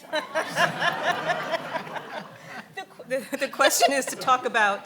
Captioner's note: laughing